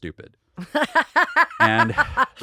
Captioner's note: laughing